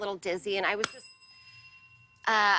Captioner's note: ding